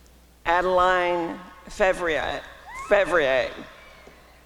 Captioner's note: applause and cheering